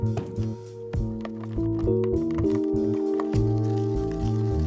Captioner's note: power pattering